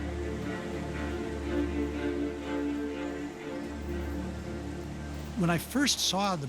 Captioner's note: bats squeaking